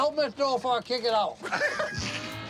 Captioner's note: laughing